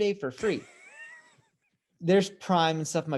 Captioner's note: interviewer laughs